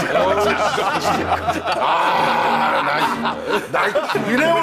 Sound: outcry

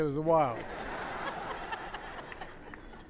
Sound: laughter

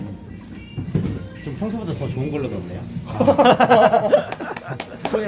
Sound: laughs

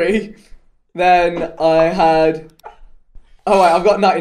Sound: all laughing

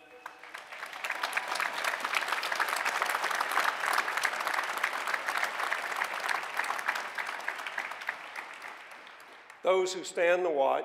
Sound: applause

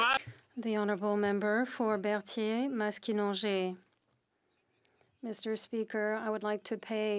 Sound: some Applause

